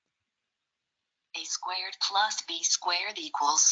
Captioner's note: automated Voice